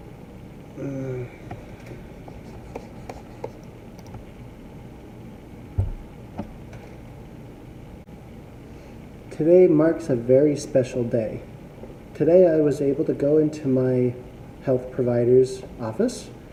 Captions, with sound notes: *groan...* Today marks a very special day... Today, I was able to go into my health providers office